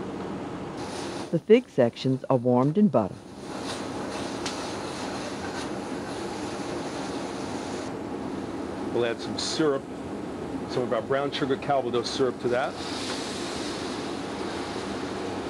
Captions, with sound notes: - [Voiceover] The fig sections are warmed in butter. - We'll add some syrup, some of our brown sugar calvados syrup to that.